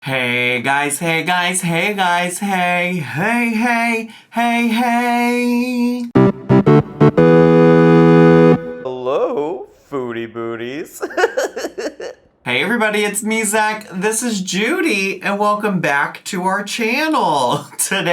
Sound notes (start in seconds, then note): 6.1 upbeat video game music; 10.9 laughs